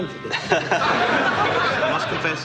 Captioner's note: audience laughs